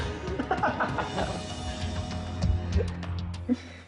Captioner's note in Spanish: Risas